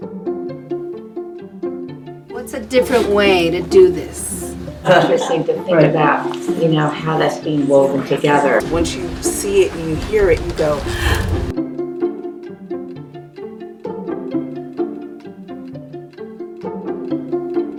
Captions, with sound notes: - What's a different way to do this? - All of us need to think about how that's being woven together. - Once you see it and you hear it, you go (breath inhaling). (upbeat violin music)